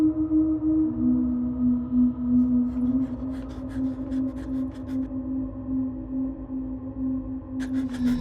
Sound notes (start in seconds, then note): 2.7 panting